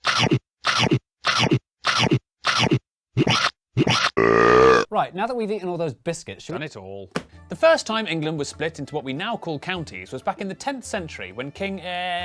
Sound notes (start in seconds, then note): 0.1 cartoon eating sound effect plays; 2.4 cartoon eating sound effect plays, but in reverse; 4.1 buuuuuurp